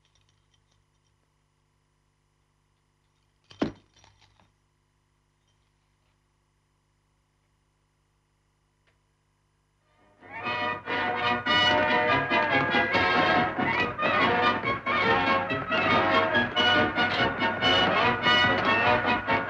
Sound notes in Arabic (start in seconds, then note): 3.1 صوت الأصفاد; 10.5 موسيقى مبهجة